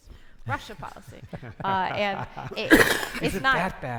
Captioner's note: panelists laughing